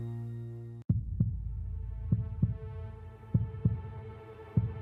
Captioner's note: heartbeat